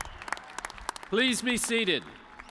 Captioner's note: cheers and applause